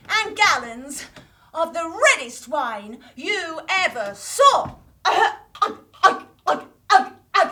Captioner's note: glug glug glug